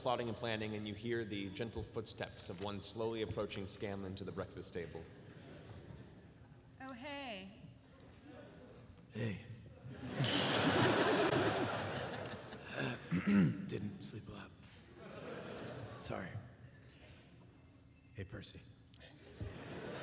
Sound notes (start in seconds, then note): 10.0 clears throat